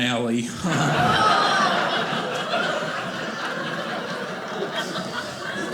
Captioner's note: audience laughing